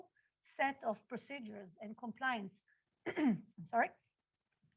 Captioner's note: clears throat